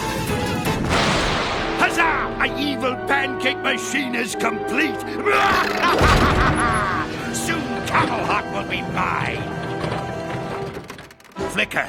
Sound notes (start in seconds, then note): 4.9 laughing maniacally